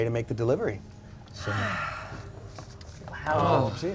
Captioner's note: sighs